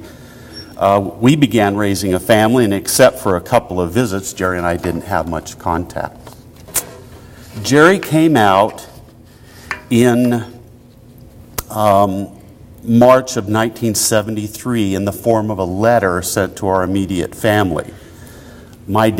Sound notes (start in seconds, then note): none